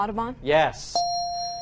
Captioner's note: dinging